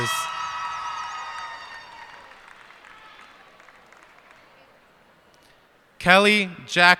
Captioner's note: cheers and applause